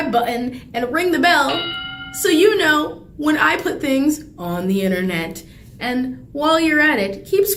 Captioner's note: bell rings